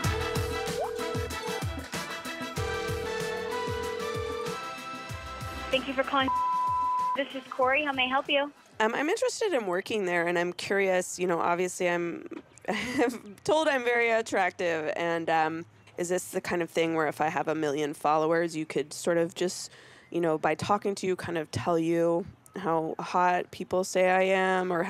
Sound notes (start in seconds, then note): 0.0 upbeat music; 0.2 phone ringing; 6.2 beeping; 12.6 giggles